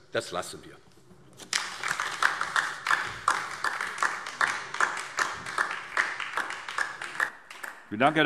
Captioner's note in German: Beifall DIE LINKE